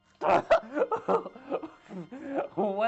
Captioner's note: laughing